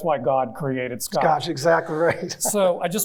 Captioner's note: chuckling